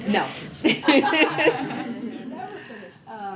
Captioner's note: laughter